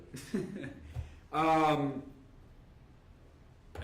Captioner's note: laughing